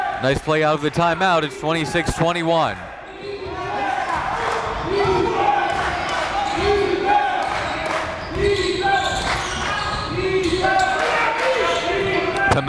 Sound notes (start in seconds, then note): 4.6 crowd